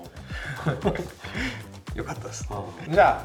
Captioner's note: laughs